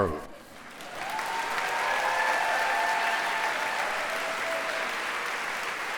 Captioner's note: applause